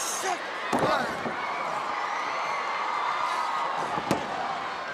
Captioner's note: wrestlers grunting; audience cheering